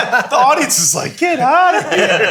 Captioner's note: all laughing